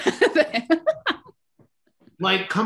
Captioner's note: laughs